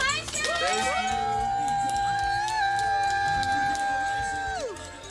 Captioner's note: cheering